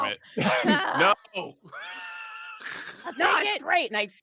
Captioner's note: laughs